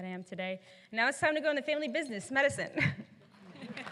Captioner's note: applause